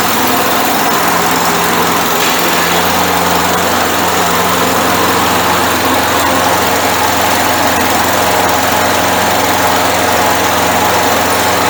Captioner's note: motor sounds